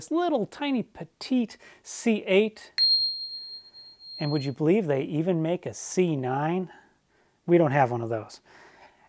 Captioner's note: bell rings